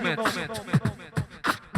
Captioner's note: beatboxer performs